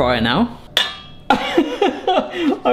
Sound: spoon fry clanks; chuckles

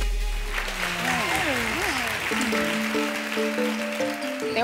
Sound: audience applauding

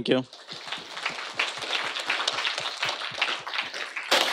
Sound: audience applauding

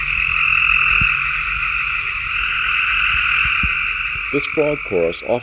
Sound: frog chorus

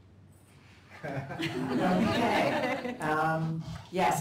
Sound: laughter

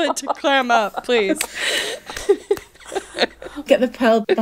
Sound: laughing

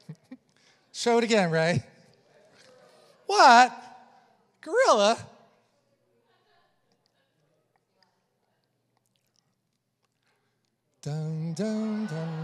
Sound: congregation murmurs

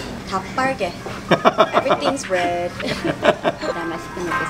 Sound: speaking in Korean; laughs; speaking in Korean

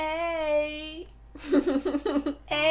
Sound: laughter

